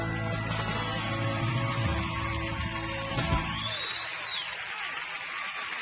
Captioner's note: audience cheering and applauding